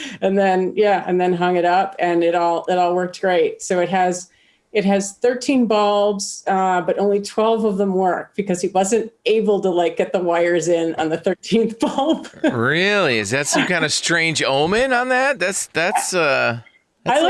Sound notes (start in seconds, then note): 12.3 chuckles